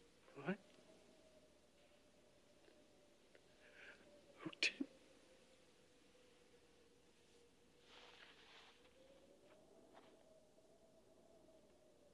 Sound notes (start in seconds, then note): 4.2 sobbing